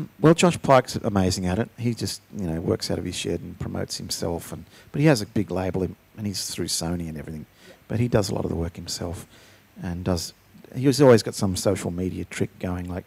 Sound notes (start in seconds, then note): none